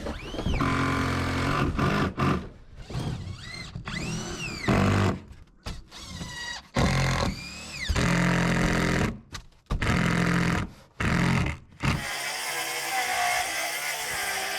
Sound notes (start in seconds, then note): 0.0 drill grinding; 0.3 drill whirring; 1.1 drill grinding; 2.8 drill whirring; 4.7 drill grinding; 6.9 drill whirring; 11.9 saw whirring